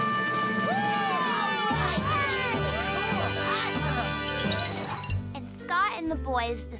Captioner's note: all cheering